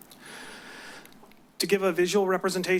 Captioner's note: deep breath